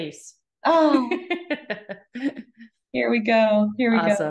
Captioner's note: laughing